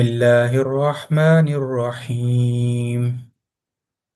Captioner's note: recitation, Bismillah